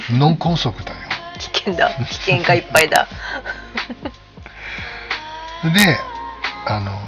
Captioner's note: laughs